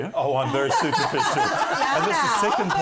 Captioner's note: laughter